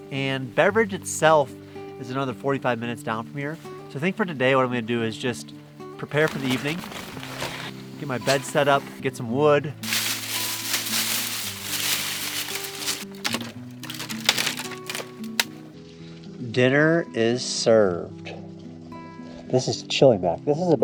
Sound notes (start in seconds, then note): 9.8 leaves breaking; 13.5 wood breaking